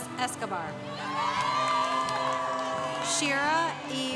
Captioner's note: congregation cheering